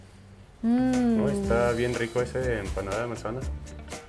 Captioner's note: speaking Spanish